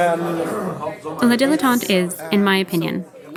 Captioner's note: Sounds of lunch at La Dilettante